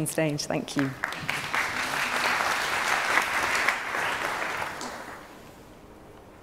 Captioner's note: applause